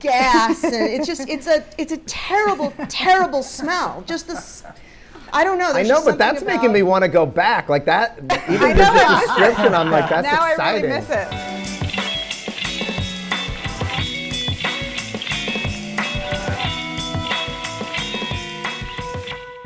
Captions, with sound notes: It's just a terrible, terrible smell. (Rob laughs) I don't know, there's just something about. - I know, but that's making me wanna go back. (panelists laughing) - I know, I miss it. - Even the description, I'm like, that's exciting. - Now I really miss it. (funky rock music)